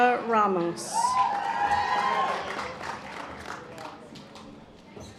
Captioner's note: audience applause